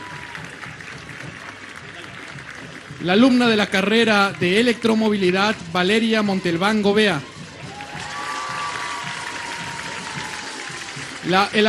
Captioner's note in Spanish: aplausos